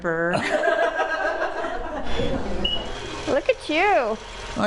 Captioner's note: all laughing